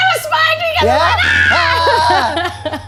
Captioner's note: screaming